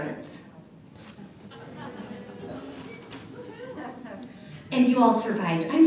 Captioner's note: laughter